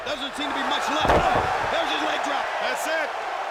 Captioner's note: body thudding